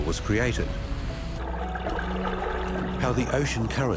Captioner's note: whirlpool whizzing